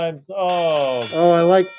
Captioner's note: bell ringing